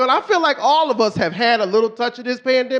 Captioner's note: none